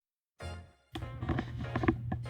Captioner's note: mic noises